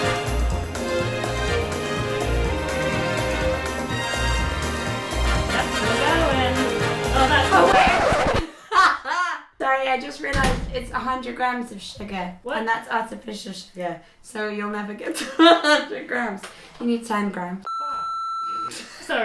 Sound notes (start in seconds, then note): 7.0 record scratching; 8.3 laughs; 17.6 beep